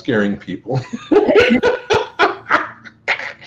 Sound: laughs

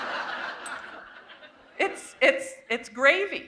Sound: laughter

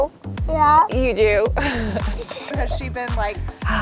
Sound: laughs

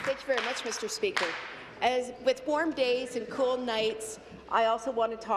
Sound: some Applause

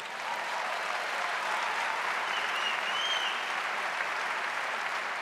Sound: audience cheering and applauding

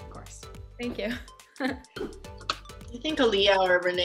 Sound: laughs

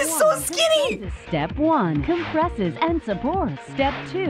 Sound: voice-over

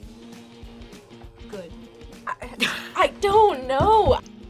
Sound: laughs

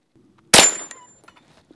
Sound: bang

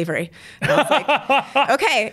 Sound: laughs

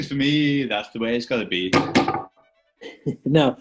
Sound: claps; taps table twice; chuckles

